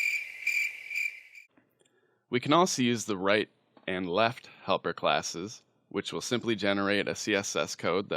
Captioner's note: crickets